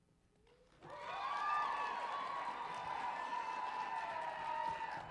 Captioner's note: cheering and applause